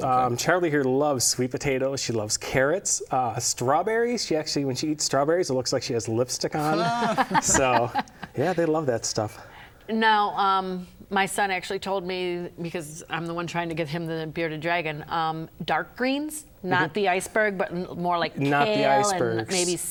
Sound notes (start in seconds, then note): 6.7 laughter